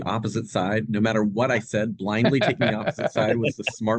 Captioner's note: laughs